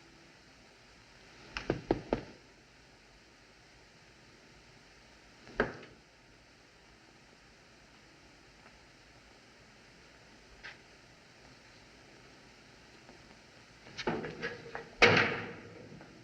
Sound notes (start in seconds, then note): 1.7 hollow Knock